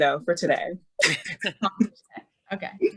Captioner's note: laughing